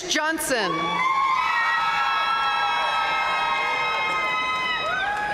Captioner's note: audience cheering and applauding